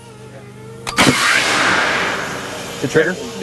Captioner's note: cannon fires